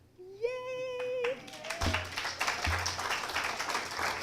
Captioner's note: applause